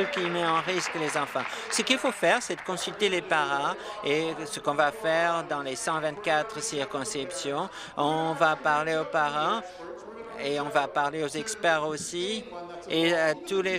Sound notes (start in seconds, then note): 2.8 applause